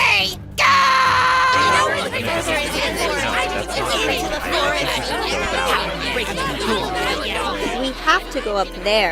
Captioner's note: everyone arguing